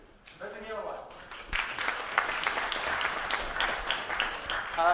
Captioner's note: applause